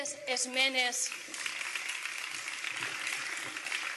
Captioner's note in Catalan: Aplausos